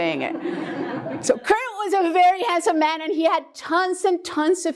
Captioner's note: laugh